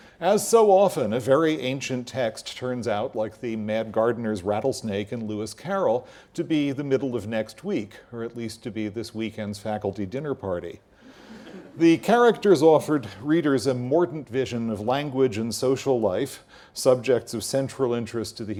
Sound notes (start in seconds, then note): 11.3 laugh